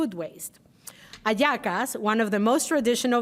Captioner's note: speaking Spanish